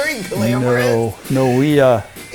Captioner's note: laughs